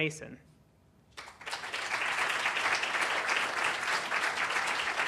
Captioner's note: applause